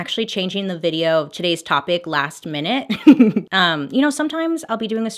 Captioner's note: laughs